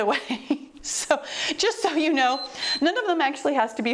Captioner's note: timer beeps